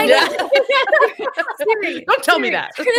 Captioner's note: all laughing